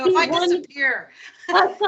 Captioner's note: laughing